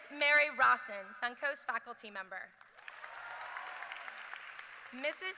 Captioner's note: cheers and applause